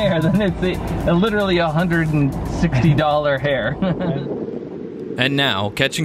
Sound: chuckles

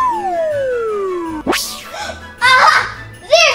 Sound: comical flute whistles; gasps

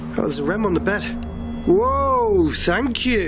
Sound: beeping

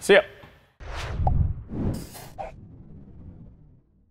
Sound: air swooshing

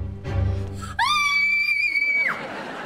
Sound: screaming

